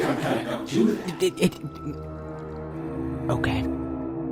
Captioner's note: stuttering